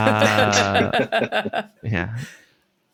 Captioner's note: laughter